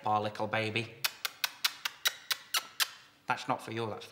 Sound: kissing sounds

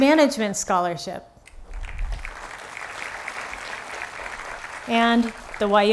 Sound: applause

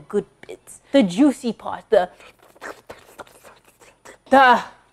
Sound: slurping

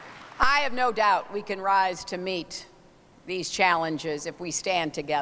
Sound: applause

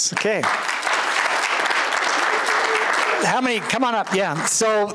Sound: applause

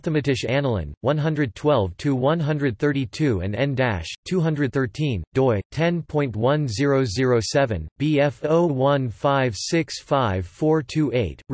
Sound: German

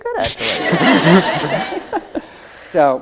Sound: audience laughs

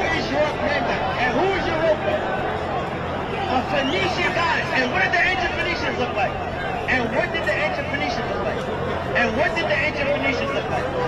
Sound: crowd noise

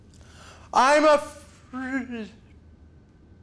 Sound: stammers

